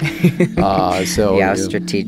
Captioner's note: laughter